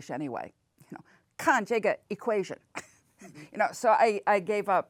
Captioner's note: speaks in foreign language